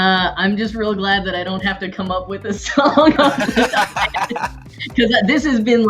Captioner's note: everyone laughs